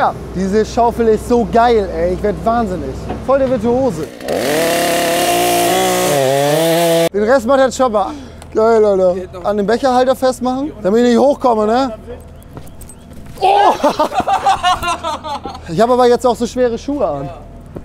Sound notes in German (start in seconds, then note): 4.0 Motorsägengeräusch; 13.4 Schreien und lachen